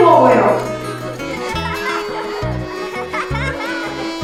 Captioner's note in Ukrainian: дитячий сміх